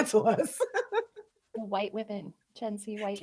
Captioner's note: chuckling